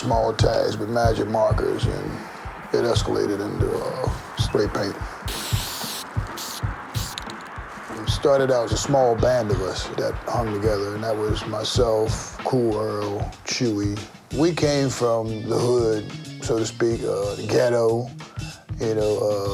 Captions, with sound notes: Small tags with magic markers and it escalated into spray paint. (smooth rhythmic music) (spray paint fizzing) It started out as a small band of us that hung together and that was myself, Cool Earl, Chewy. We came from the hood so to speak. Ghetto, you know.